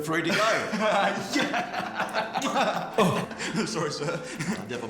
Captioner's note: laughing